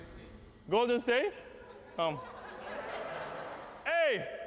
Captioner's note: laughter